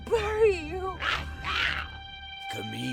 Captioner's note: Giree snarls